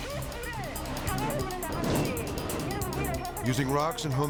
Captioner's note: tense music; radio chattering